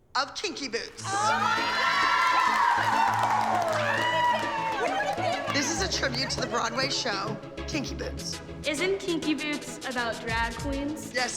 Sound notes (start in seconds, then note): 0.9 cheering